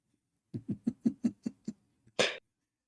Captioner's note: Ketawa